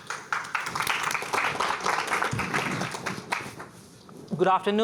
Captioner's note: applause